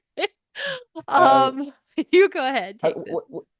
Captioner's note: laughs